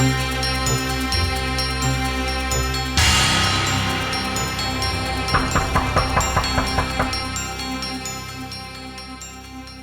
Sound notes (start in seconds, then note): 5.1 knocking